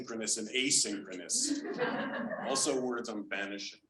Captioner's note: audience laughing